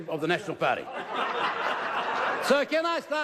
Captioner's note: laughter